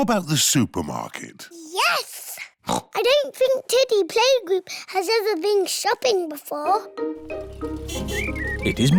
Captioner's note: oinks